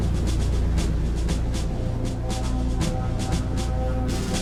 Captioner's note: plane engines rumbling